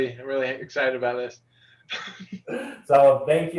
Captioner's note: laughter